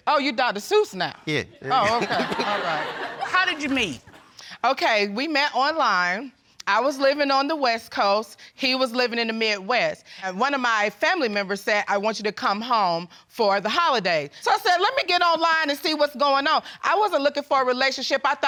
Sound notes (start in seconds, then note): 1.8 all laughing